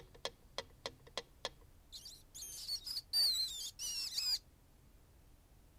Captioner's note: rat squeaking